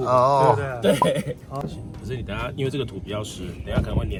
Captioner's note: laughs